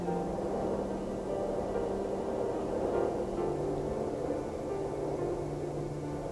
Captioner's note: wind howling; gentle music continues